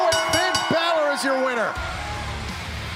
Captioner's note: bell ringing